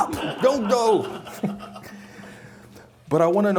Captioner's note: chuckling